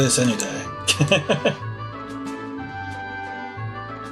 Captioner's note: laughs